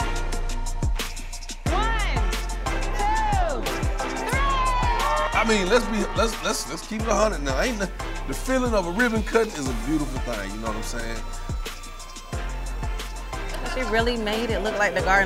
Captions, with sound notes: - One, two, three. (crowd cheering) - I mean, let's keep it a hundred now. The feeling of a ribbon-cutting is a beautiful thing. You know what I'm saying? - She really made it look like the garden.